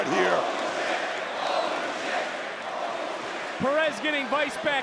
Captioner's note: audience chanting